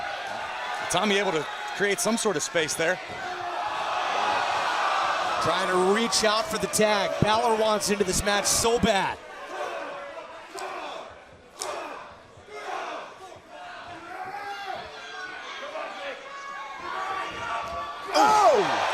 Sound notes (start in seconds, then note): 4.5 crowd cheering; 9.7 crowd cheering